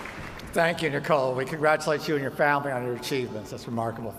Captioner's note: applause